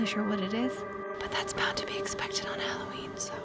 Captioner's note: whispering